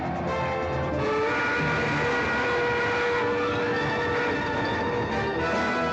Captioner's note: dramatic music; train whistle blaring